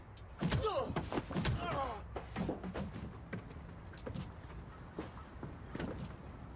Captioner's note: blows thudding; man groaning